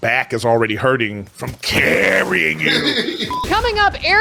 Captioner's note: laughing